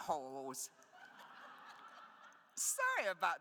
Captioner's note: attendees laughs